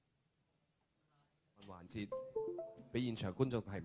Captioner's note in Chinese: 沒有收音